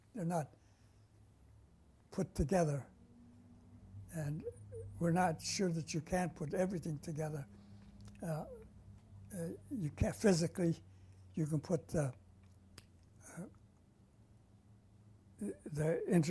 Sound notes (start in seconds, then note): 13.4 pauses for 3 seconds